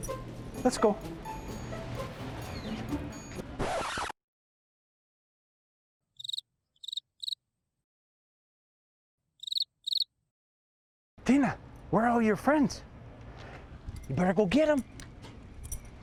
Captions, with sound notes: Let's go. [record scratch] [crickets chirping] Tina, where are all your friends? You better go get 'em.